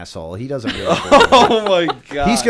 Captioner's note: laughter